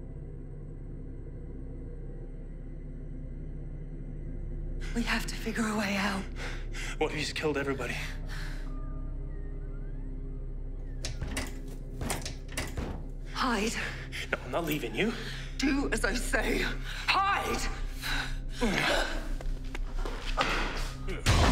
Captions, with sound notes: We have to figure a way out. - What if he's killed everybody? (door thumping) - Hide. - No, I'm not leaving you. - Do as I say! Hide! (suspenseful music)